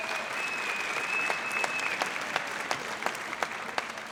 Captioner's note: audience applauds